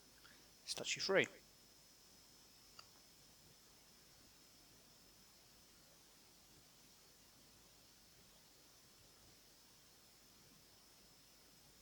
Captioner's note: silence